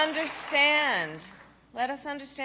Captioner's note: applause